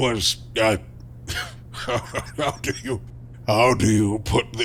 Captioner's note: confused laugh